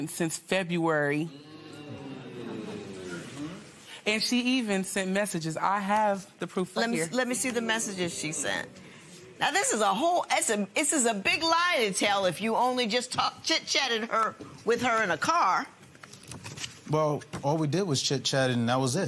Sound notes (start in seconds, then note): 1.2 spectators murmur